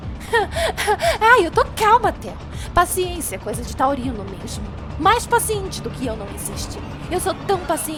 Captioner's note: laughs